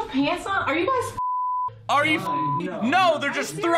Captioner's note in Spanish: pitido